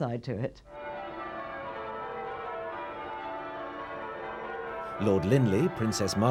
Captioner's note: church bells ringing